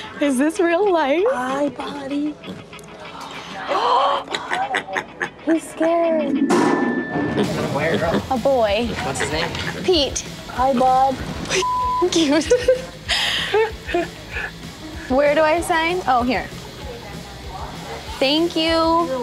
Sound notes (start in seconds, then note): 3.3 Chelsea gasping; 4.3 pig grunting; 11.6 beep; 12.1 Chelsea laughing